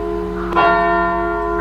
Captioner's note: church bell strikes